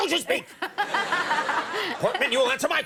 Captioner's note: audience laughing